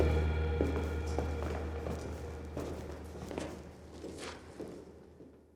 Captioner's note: footsteps